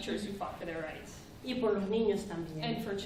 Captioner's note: speaking spanish